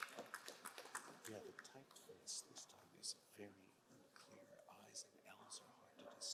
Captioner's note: crowd cheering and applauding; announcer faintly speaking